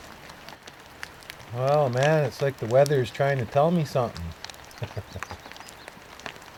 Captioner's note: laughter